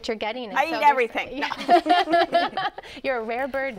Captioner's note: laughter